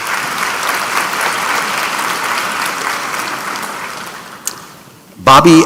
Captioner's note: applause